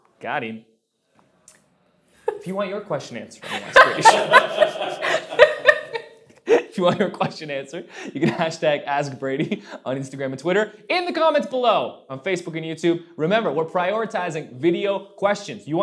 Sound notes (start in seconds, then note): 3.4 laughing